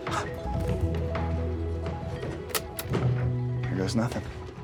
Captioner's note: Walter gasps; tapecorder clicks